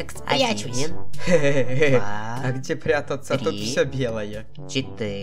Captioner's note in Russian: Смех